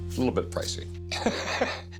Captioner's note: chuckles